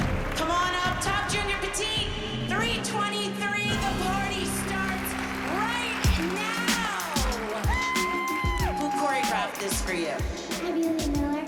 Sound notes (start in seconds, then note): 6.5 applause